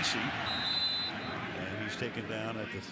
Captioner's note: whistle